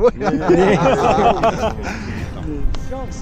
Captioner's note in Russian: смеются